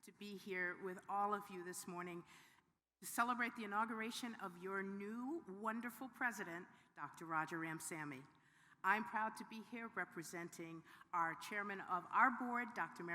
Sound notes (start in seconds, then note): none